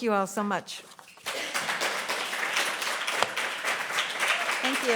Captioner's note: applause